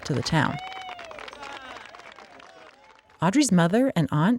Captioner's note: crowd cheering